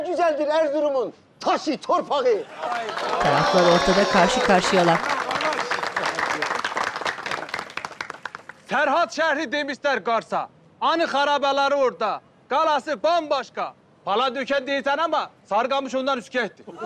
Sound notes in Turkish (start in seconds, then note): 2.6 Alkış sesleri